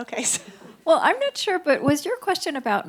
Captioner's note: audience chuckles